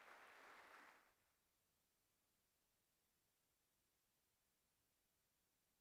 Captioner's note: applause